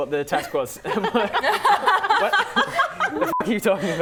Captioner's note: laughing